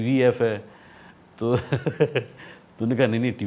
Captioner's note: chuckles